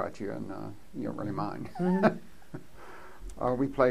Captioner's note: laughs